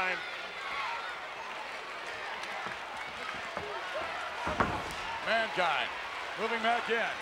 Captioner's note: applause